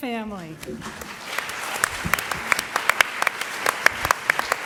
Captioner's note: applause